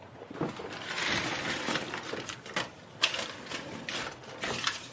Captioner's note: money crumpling